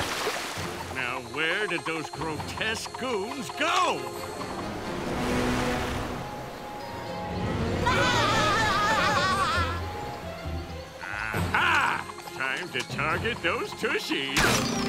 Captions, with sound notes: Now where did those grotesque goons go? [laughing] Ah-hah! Time to target those tushies.